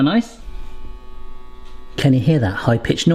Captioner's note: machine whirring